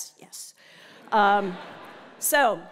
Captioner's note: laugh